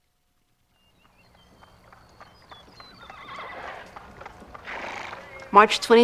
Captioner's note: birds Chirping, Horse Whinnying